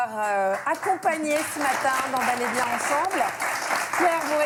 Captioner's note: applause